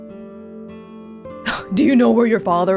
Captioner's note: exhales